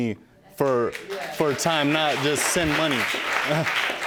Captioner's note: audience clapping